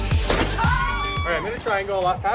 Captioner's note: thudding; screaming